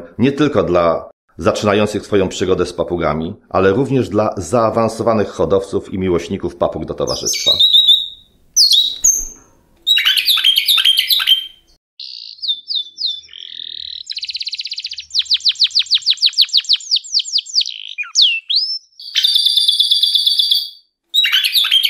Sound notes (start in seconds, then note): 7.9 parrot singing; 12.8 canary singing